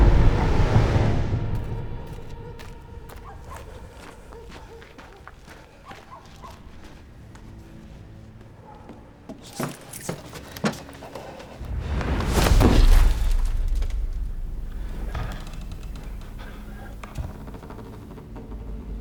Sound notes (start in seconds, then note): 2.0 snow crunches beneath footsteps; 9.4 keys jingling; 11.8 creature lands and thumps; 14.8 boards creaking